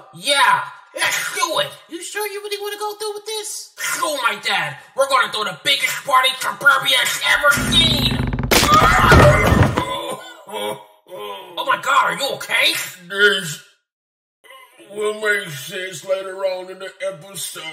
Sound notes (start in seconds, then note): 7.4 thud; 9.4 grunting